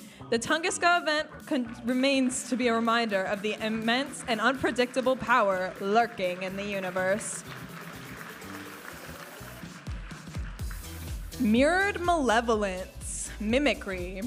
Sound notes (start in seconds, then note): 7.8 audience applauding; 9.7 vibrant music